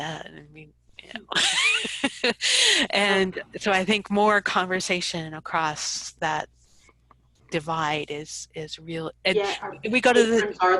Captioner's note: laughs